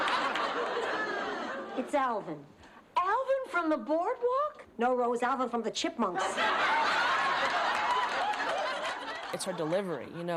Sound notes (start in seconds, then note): 0.0 laughs; 6.2 laughs